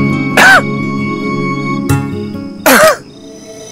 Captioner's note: Rohit coughing